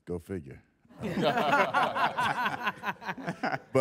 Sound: all laughing

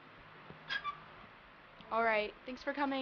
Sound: door creaks

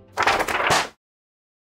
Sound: rustling paper

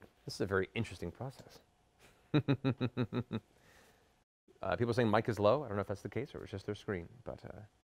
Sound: evil laugh

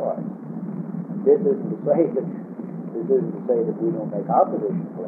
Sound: laughing

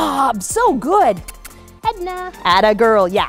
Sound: kissing sounds

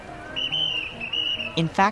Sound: whistle blows

